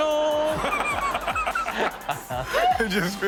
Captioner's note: Steelo laughs